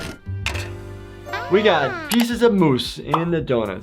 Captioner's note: Flaky exclaiming